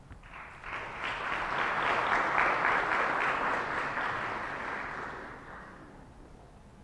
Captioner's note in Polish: oklaski